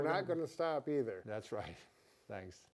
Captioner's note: chuckles